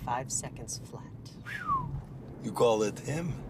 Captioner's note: Radovan whistles